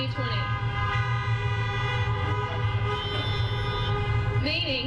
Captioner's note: horns honking